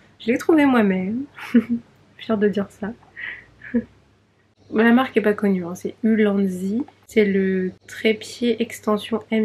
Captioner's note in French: rires